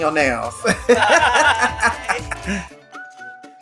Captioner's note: laughs